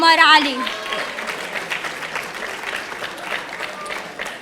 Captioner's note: audience applauding